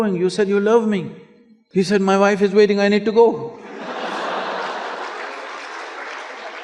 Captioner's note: laughter